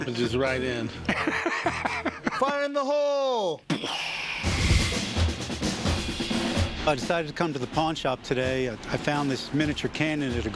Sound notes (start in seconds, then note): 1.0 Rick laughs; 4.4 martial music playing; 4.5 imitates explosion